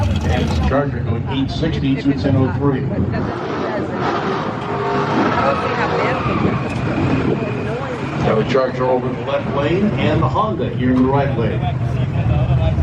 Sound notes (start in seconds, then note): 3.5 attendees chattering loudly; 3.5 vehicle engine roaring